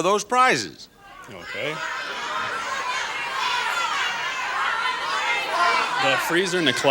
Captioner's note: audience shouts suggestions